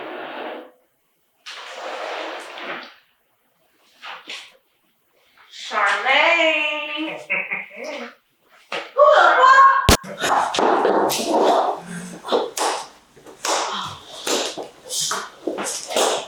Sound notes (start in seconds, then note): 7.0 Crank laughing; 9.9 gun shot; 13.2 Crank clapping